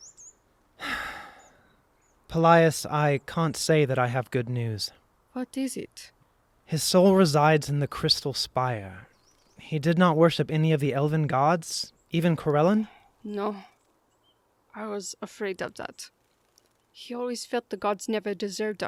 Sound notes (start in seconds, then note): 0.8 Laeran sighs